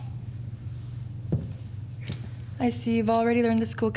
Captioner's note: footsteps thudding